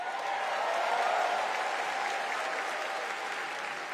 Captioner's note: cheers and applause